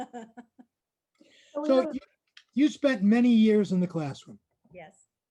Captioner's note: laughing